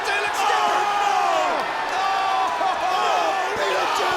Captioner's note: commentators exclaiming